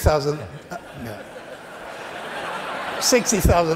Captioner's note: laughter